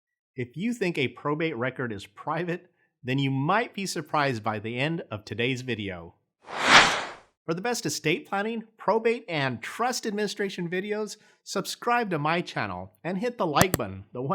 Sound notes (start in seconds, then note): 6.5 swoosh